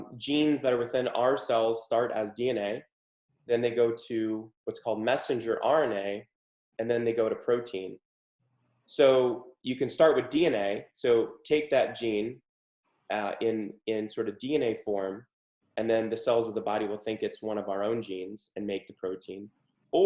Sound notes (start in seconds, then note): none